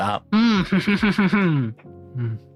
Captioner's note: laughs